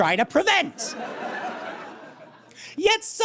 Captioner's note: audience laughs